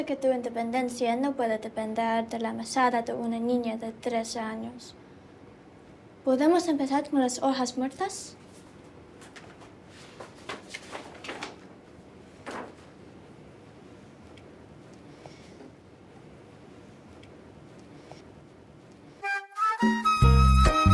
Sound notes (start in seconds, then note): 12.3 paper Crackling